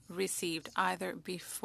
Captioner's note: speaking French